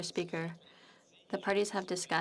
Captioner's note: speaking French